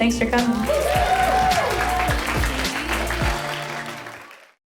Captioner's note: audience cheers